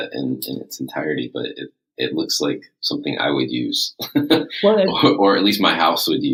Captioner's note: laughs